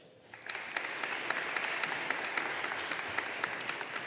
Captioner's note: audience applauding